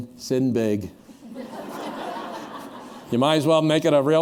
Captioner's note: laughter